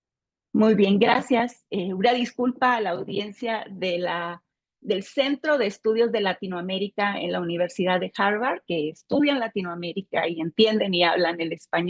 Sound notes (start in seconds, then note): 0.6 speaking Spanish